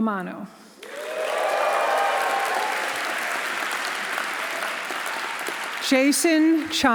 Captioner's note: audience applauding; audience cheering